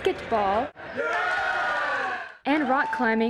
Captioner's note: cheers